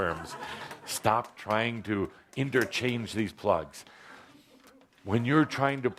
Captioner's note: laughter